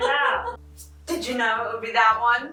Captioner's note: laughing